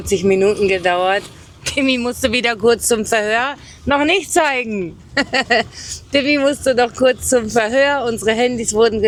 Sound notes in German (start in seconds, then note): 5.1 gelächter